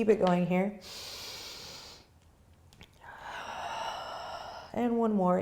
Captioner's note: breathing